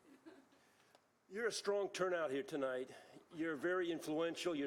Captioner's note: laughter